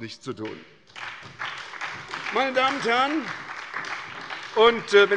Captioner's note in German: Beifall bei der SPD